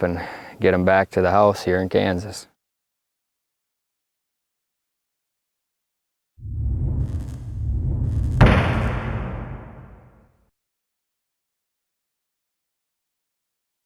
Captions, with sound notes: and get him back to the house here in Kansas. (air whooshing) (wood slamming)